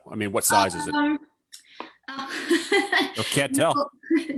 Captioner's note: laughs